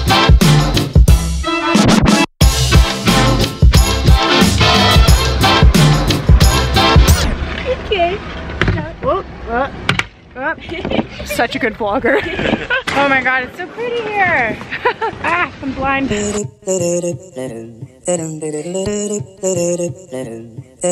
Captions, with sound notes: Hey guys. Whoa, ugh. (laughs) Such a good blogger. Oh my god, it's so pretty here. Ah, I'm blind. (humming upbeat music)